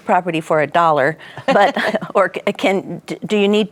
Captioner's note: laughing